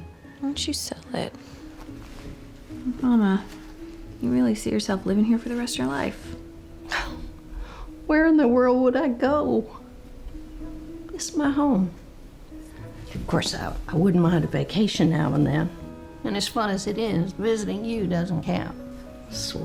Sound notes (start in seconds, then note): 6.8 scoffs